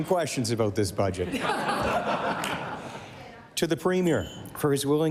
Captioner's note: cheering/applause